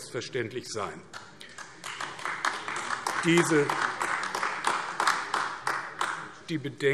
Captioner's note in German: Beifall AfD